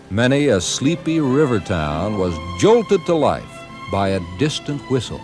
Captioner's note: boat whistling